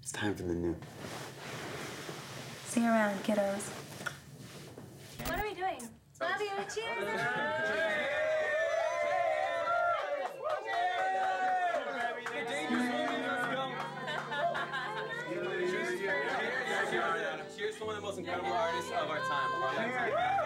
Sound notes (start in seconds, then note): 7.4 all cheering